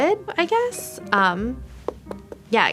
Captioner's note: knocking on brick